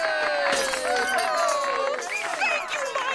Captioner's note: applause